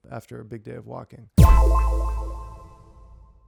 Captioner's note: tone echoing